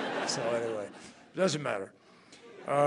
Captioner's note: laughter